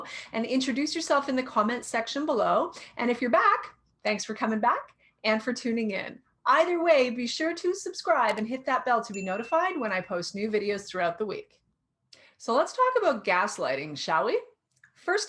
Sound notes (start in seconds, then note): 8.6 light clicking; 9.1 bell rings